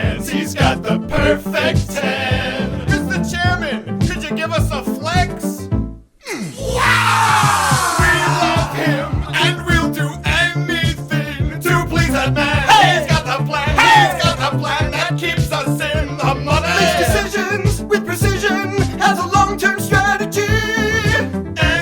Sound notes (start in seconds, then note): 6.5 sound of posing